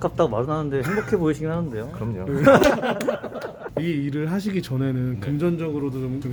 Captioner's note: laughing